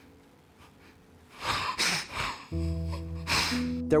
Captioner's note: crying